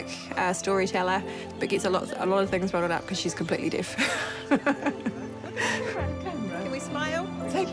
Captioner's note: chuckles